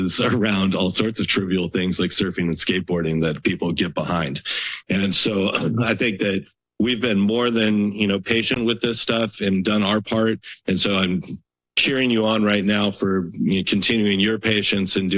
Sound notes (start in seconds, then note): 0.0 chuckles; 5.3 clears throat